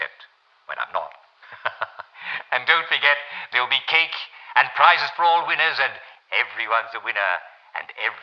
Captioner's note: laughs